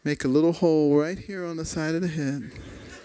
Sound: laughter

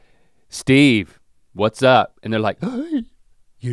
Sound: gasps

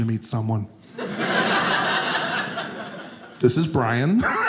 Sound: audience laughing

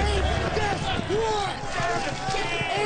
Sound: crowd murmuring

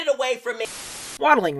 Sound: Static

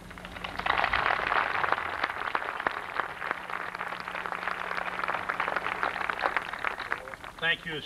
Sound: applause

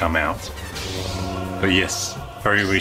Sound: lightsaber sounds

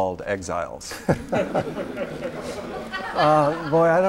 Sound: laughter

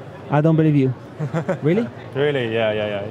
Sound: laughing

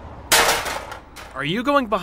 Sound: metal sounds

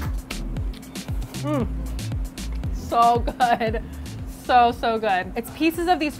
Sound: mmm

